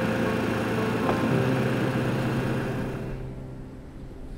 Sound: engine revving

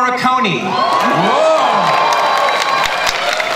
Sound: audience cheering

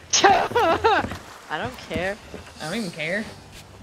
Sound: laugh

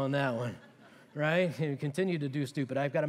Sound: laughter

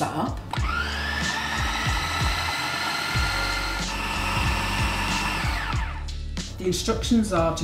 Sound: food processor whine

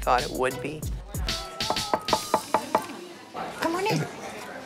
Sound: knocking

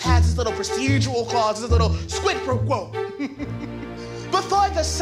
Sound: chuckles

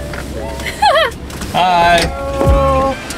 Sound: upbeat music playing; giggling

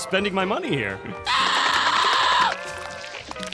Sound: screaming

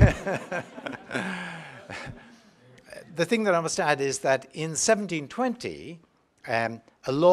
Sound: laugh

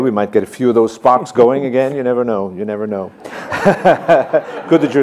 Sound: laughs

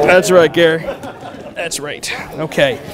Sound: laughter

